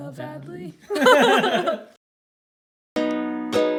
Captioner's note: laughter; mellow guitar music